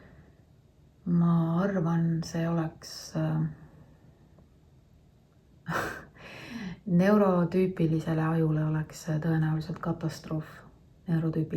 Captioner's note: laughs